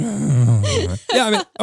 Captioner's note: roaring